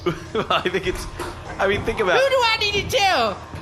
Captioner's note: laughing